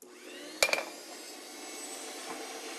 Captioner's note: whirring